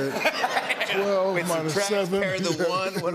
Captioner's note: laughter